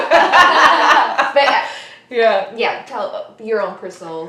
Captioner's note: laughs